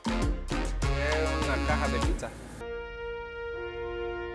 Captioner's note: in Spanish; dramatic music builds